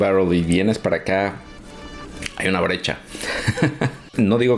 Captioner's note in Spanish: risas